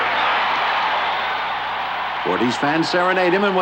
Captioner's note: crowd cheering